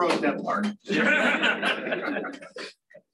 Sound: laughter

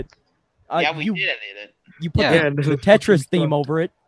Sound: crowd Murmuring

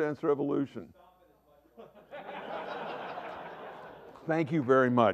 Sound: laughter

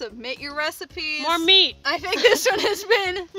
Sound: laughing

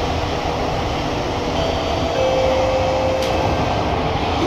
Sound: chime

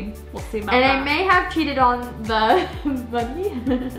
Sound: laughs

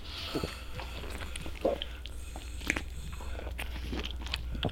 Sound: rabid slurping, gulping

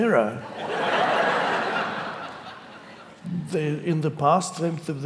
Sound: audience laughing

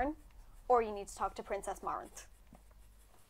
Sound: none

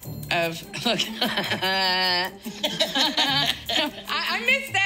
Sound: both laugh

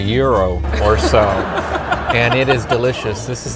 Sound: laughing

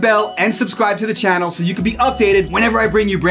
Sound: graphics chime; cursor clicks; graphics chime

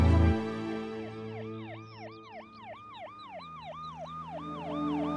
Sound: police siren wails

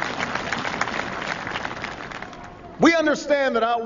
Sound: applause

